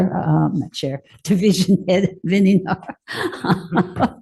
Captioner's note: chuckles